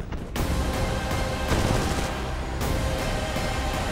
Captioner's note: gunshots